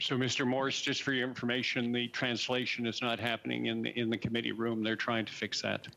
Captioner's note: speaking French